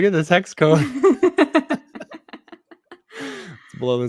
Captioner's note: chuckling